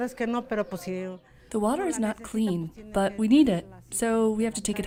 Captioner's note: through translator